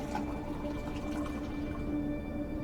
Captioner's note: pours water into a cup